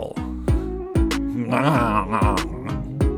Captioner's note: bizarre mouth sound